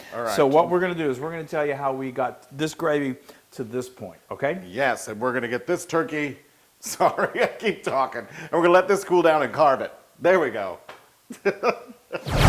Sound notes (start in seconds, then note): 8.0 laugh